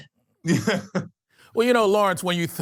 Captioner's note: chuckles